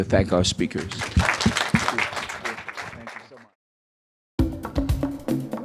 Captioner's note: audience applauding; lively instrumental music